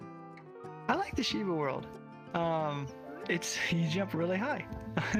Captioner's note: chuckles